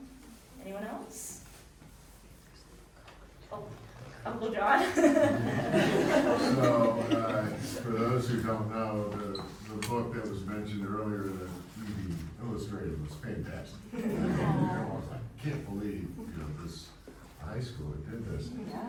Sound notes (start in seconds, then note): 4.8 audience chuckling; 4.8 chuckles; 13.9 audience chuckling